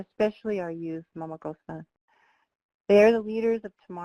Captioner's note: speaking foreign language